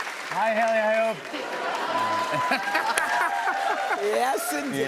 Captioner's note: cheers and applause